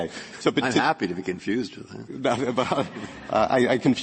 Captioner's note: laughter